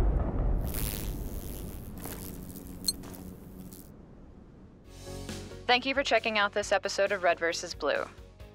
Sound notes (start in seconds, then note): 0.6 wasp buzz; 2.3 clink; 4.3 upbeat music